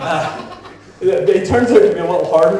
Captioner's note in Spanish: la audiencia se ríe